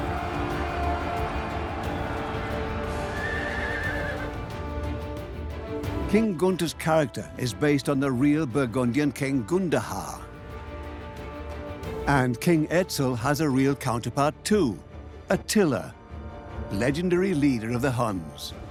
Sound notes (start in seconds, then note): 3.2 horse whinnies